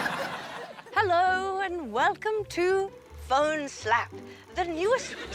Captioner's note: posh english accent